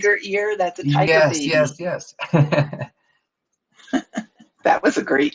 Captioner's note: laughs